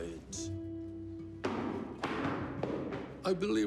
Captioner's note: feet stamp